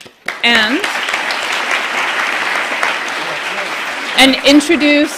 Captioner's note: applause